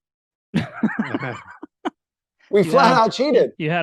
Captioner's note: laughing